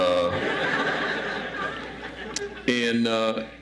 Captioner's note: audience laughs